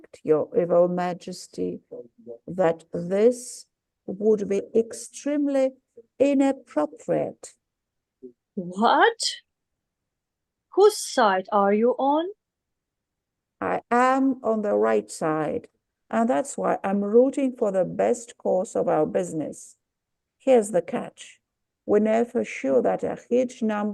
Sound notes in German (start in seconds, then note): 9.5 irritiert